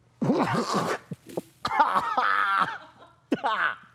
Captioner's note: coughs and gags